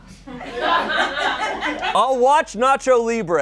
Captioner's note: people laugh